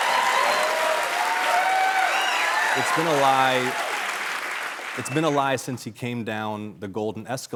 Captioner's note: cheering